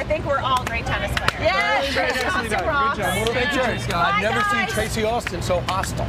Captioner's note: cheers